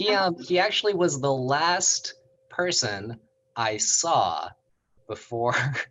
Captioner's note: chuckles